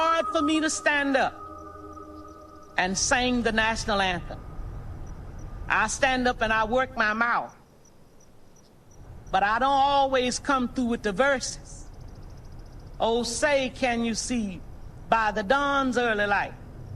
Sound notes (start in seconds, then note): none